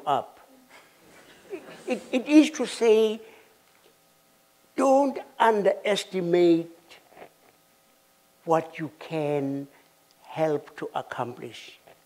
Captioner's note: laughter